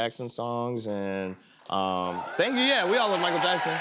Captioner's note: cheers and applause